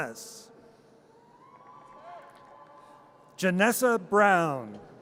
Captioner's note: audience cheers